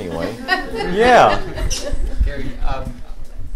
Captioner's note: laughter